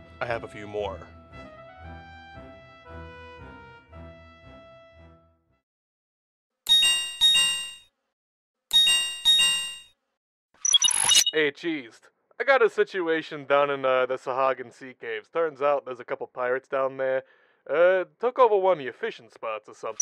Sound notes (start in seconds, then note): 6.7 Linkshell ringing